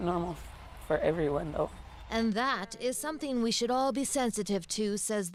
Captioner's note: cheers and Applause